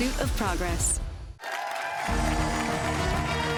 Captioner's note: cheers and applause